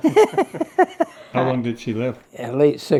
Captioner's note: laughs